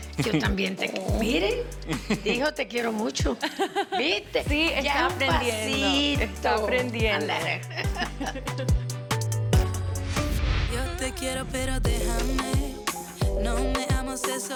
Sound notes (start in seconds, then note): 0.0 speaks Spanish; 4.6 speak Spanish; 11.8 spanish music